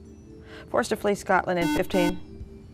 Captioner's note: buzzer